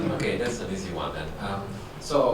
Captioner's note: laughs; voiceover